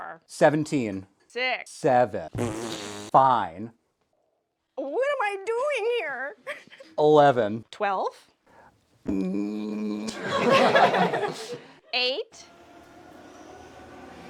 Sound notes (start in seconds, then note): 2.3 fart